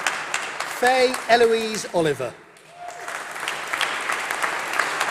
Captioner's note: applause